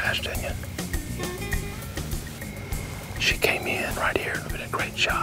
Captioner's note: whispering